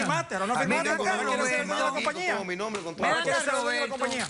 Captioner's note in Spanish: hablan al unisono